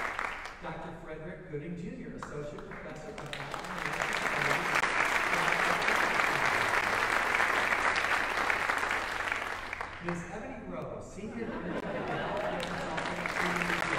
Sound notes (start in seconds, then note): 4.9 audience applauding